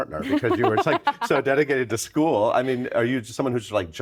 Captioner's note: Laurie laughing